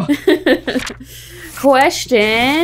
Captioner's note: laughing amusingly